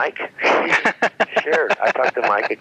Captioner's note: laughing